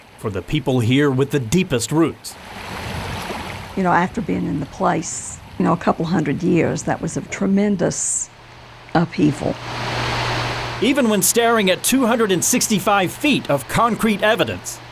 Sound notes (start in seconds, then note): 2.3 water trickling; 9.8 water flowing